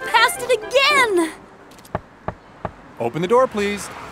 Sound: knocks

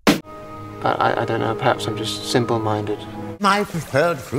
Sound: stuttering

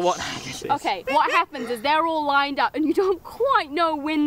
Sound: giggling

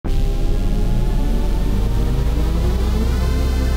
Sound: my lousy Windows NT 5.0 startup sound recreation

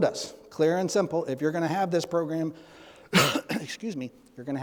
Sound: clears throat

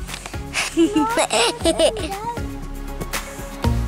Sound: laughs; upbeat electronic music

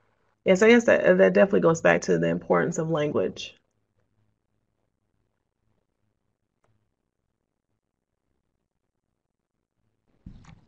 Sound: silence

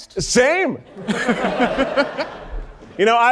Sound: audience laughing

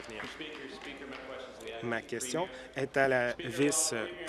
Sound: applause

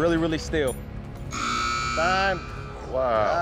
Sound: buzzer sound

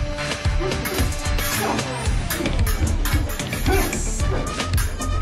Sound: metal clangs over charged music

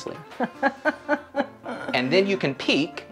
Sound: laughs

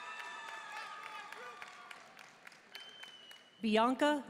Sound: audience cheering and applauding

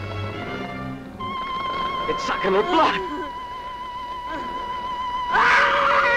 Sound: Natalie sobbing; Natalie screaming

